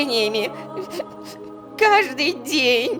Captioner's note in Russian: плачет